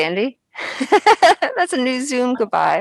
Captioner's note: laughs